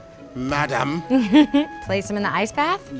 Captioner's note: laughing